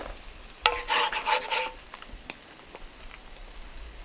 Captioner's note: scraping